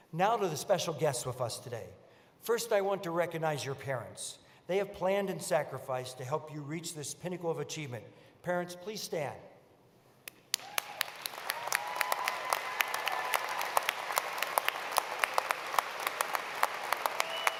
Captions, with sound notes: Now to the special guests with us today. First, I want to recognize your parents. They have planned and sacrificed to help you reach this pinnacle of achievement. Parents, please stand. [APPLAUSE]